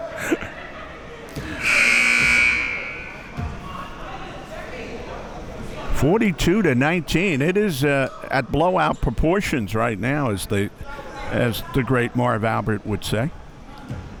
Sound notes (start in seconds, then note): 1.5 buzzer blaring; 4.6 spectators chattering